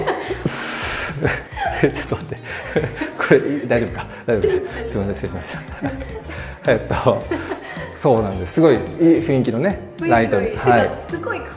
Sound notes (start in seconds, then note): 0.2 both laugh; 3.5 laughs